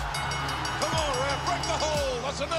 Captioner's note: bell ringing